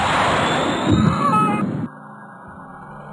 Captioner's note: screams